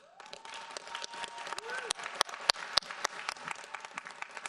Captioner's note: audience applauds